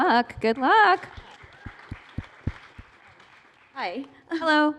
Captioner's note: applause